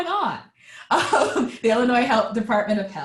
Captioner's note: laughing